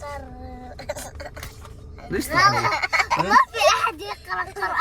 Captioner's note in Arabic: ضحك